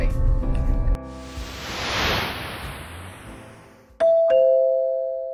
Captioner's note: whoosh; doorbell